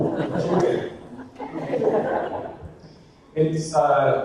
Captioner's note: audience laughter